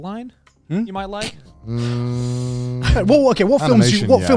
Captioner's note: snickers